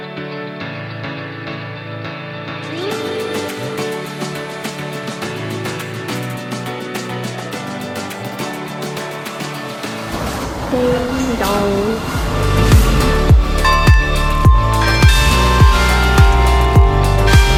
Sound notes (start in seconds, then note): 13.2 church bells ringing